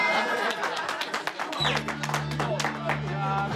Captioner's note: laughter, cheers and applause